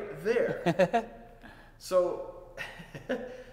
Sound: laughing

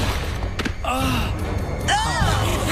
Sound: laughs

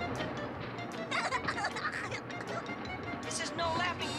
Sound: giggles

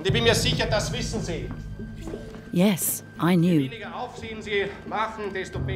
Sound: speaks in foreign language

